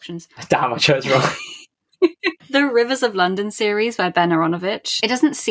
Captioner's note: laughs